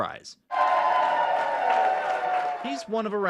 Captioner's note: students cheering